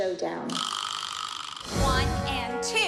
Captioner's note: spinning sound effect